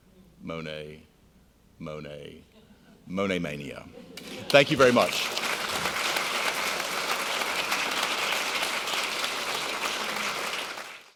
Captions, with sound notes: Monet, Monet, Monet-Mania. Thank you very much. (applauding)